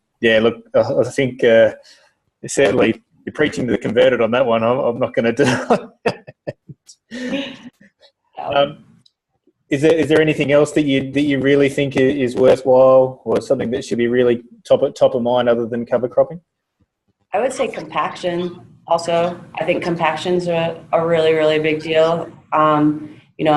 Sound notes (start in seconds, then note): 5.4 laughs; 7.3 laugh